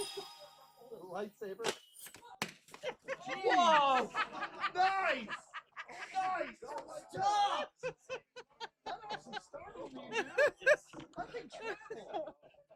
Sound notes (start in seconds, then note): 1.8 pops a party popper; 8.9 pups cracking up